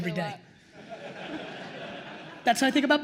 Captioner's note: attendees laughing